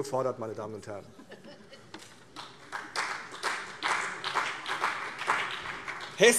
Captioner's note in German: Vereinzelter Beifall CDU und BÜNDNIS 90/DIE GRÜNEN